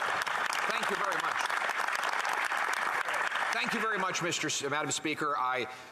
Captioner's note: some Applause